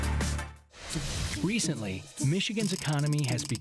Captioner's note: voiceover